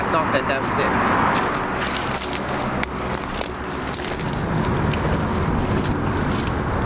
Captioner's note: branches cracking; gentle music continues